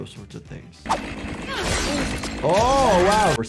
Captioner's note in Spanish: Sierra zumbando